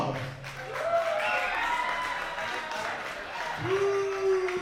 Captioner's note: crowd cheering